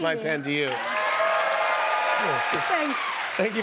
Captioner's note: cheers and applause